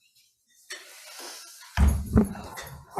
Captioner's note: chair thumps; binder grinds